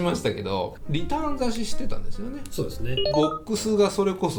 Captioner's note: FX loop